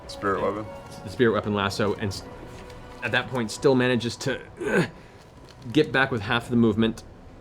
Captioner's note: grunts